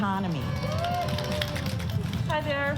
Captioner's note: cheering